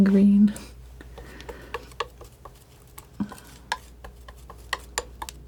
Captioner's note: tapping